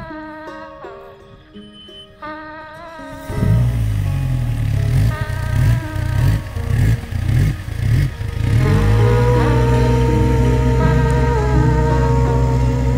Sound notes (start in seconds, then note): 3.4 boat engine revving; 9.3 relaxed music continues